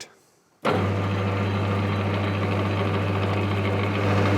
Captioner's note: low whirring sound; louder whirring sound